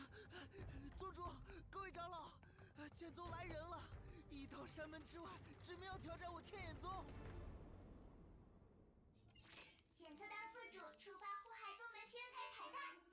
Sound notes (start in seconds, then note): 9.4 ding!